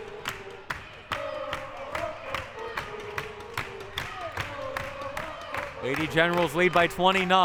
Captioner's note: audience chanting and clapping